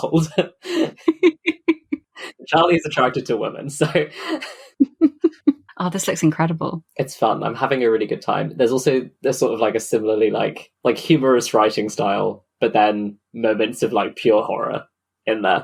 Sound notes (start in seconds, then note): 4.5 laughs